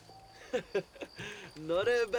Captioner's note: laughs